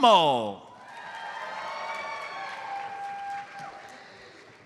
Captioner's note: audience applauds